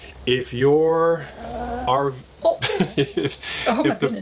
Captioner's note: Daisy growls